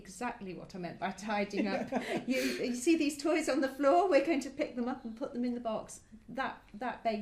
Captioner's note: laugh